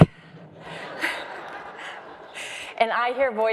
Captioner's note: crowd laughs